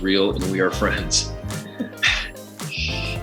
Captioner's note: laughs